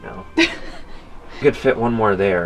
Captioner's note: laughs